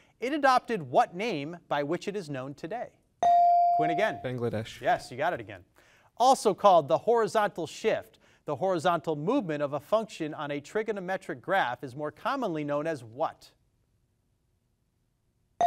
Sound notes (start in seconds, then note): 3.2 device dings